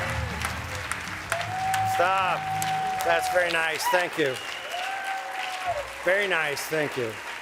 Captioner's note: cheers and applause